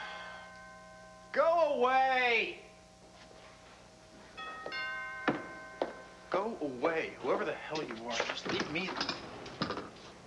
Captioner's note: drbell rings